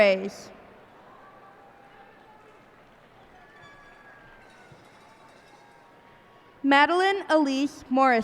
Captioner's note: cheers and applause